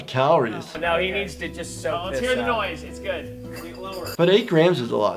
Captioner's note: group chattering